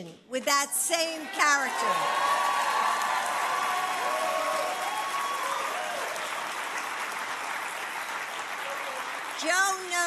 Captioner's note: applause